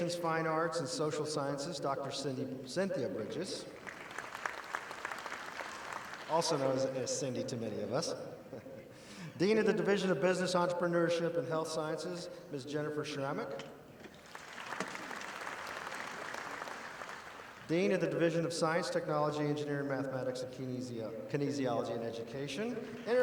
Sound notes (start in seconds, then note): 3.7 audience applauding; 8.5 laughs; 14.1 audience applauding